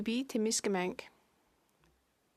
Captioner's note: speaking French